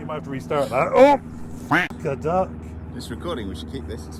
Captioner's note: quack